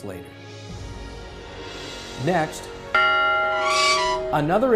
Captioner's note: swoosh; bell; creak